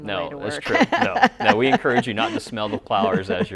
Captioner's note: laughs loudly